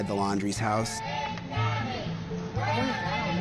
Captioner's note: Crowd chanting "Where is Gabby?"